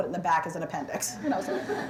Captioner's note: laughter